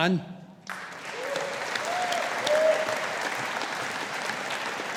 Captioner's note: audience applauding